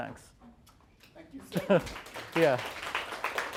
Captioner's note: applause